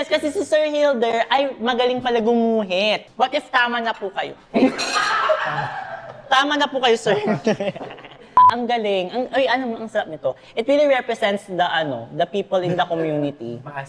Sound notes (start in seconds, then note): 4.6 everyone in the background laughs